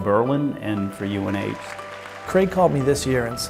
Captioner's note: applause